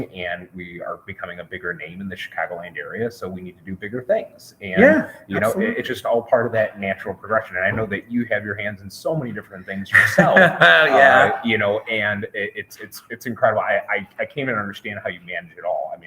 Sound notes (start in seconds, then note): 9.9 laughs